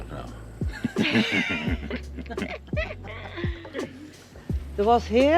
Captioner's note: laughter